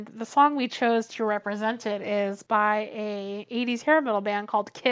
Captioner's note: none